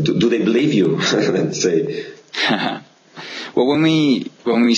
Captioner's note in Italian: HAhah